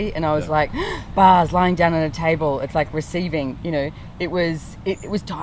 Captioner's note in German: nach Luft schnappen